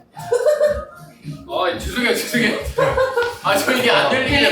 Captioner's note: giggling